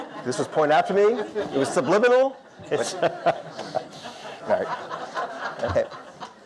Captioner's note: audience laughter